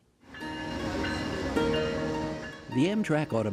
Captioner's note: train bells ringing